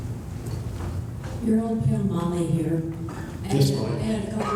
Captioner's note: voiceover